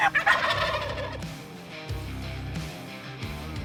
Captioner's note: turkey call; turkeys gobbling